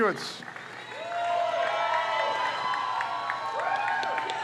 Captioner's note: crowd cheers